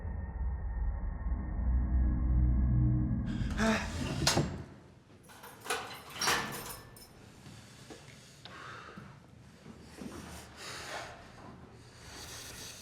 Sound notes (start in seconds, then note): 3.3 Palle gasps; 5.3 lock clicks; 10.2 Palle breathes heavily